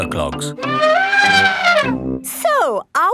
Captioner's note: trumpeting